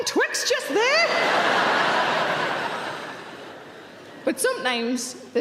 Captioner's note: audience laughing